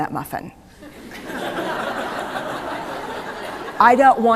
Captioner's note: laughter